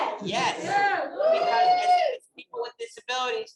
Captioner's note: audience cheering